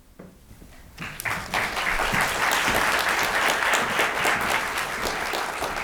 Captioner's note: audience applauding